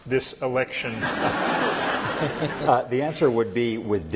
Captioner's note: laughter